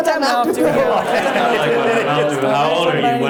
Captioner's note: audience laughs